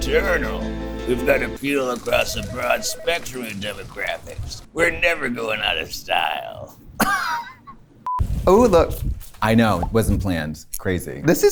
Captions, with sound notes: We've got appeal across a broad spectrum of demographics. We're never going out of style. [laughs] I know. It wasn't planned. Crazy.